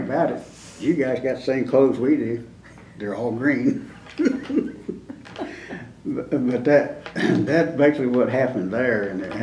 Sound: laughs

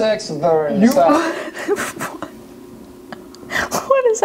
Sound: laughs

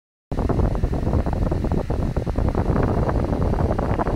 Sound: wind blowing

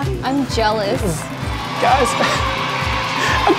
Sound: audience applause

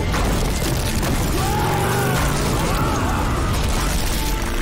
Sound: screaming

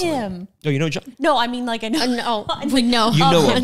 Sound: laughs

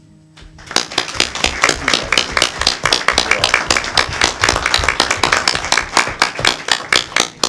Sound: applause

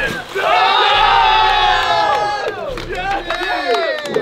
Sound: crowd cheering

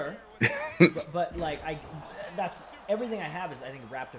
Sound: laugh

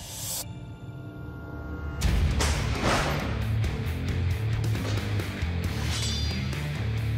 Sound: blade impact sounds

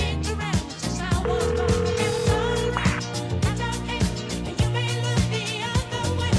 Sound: phone rings

